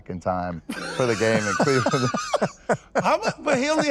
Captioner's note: laughs